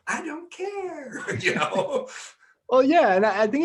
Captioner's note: laughing